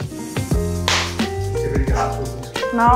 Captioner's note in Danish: klap